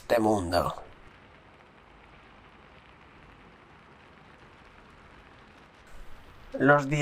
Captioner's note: raining sounds